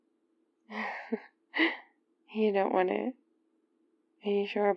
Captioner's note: laughs